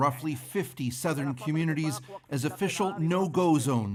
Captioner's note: speaking alternate language